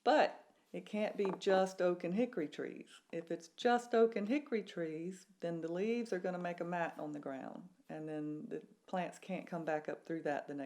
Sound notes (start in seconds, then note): none